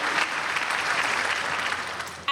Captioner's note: applause